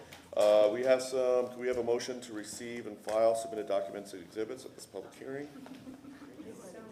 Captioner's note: laughter